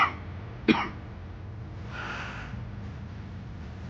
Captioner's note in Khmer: ក្អក